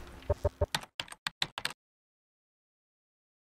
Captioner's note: typing